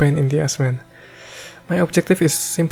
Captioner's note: heavy Breathing